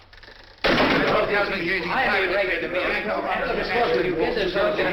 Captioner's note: all clamoring